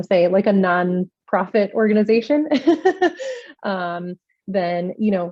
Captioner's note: laughs